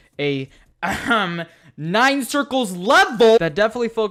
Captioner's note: ahem